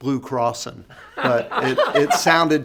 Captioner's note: panelists laughing